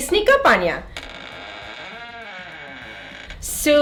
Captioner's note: door creaking